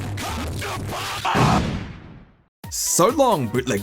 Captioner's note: explosion